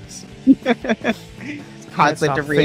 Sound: laughs

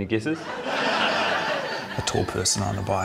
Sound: laughter

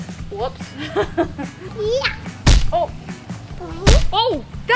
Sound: laughing

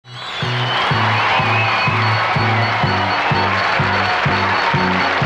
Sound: audience cheering; upbeat rock music

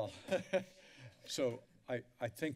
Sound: laugter

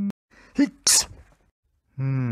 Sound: sneeze

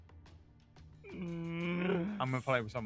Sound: groans in frustration

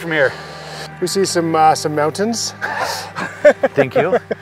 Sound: both laughing

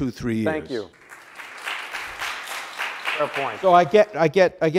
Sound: audience applauds

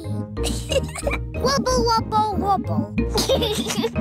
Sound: giggles; giggles

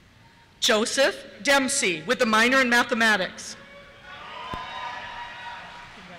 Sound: cheers

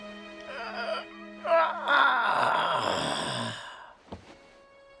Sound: yawn

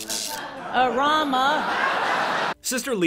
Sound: audience laughing

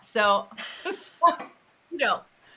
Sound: both laughing

